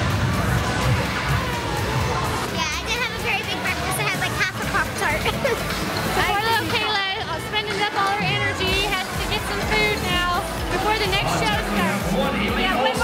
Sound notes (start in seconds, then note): 5.2 laughs